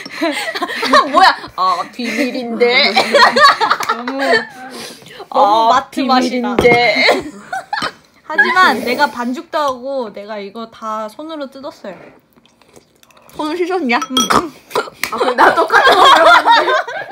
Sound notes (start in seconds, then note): 11.9 slurp